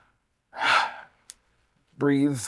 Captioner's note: sigh